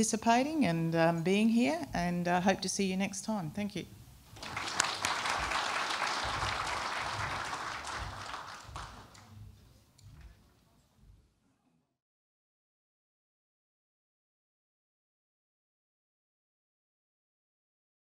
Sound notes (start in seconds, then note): 4.3 applause